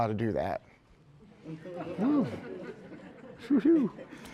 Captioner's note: laughter